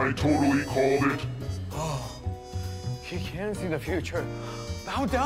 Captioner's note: gasps